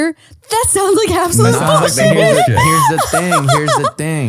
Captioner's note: laughs